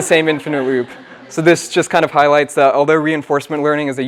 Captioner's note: laugh